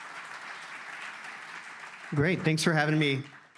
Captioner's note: audience applauds